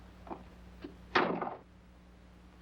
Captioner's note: door closes